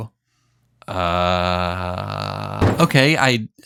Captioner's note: bangs desk